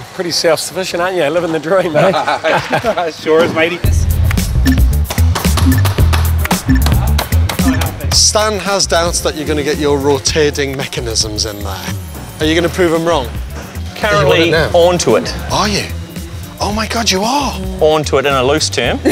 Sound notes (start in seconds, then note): 1.8 laughter